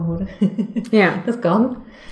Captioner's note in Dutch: lacht